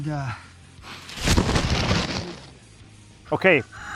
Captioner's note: camera falling